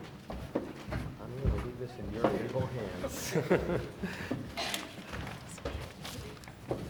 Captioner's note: laughing